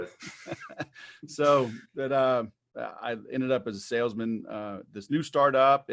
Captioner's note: laughs